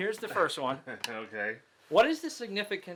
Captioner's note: laughs